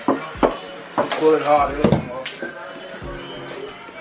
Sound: knocking

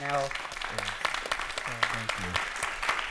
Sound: applause

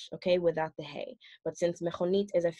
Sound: speaks foreign language

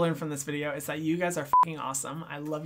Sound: beep

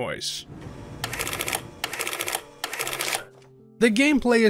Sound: paper printing noise

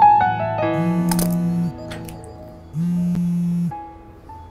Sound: phone rings

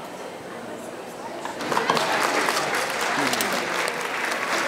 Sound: ^audience oohs^; ^applause^

